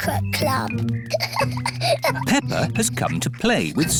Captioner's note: peppa giggling